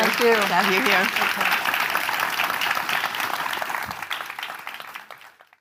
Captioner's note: audience applauding